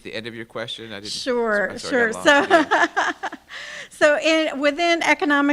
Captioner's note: laughs